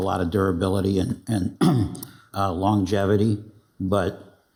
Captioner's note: clears throat